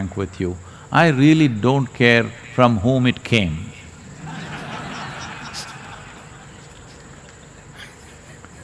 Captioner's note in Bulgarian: смях